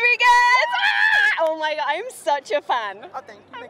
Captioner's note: screams